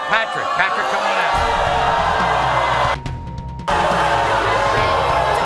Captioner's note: audience boos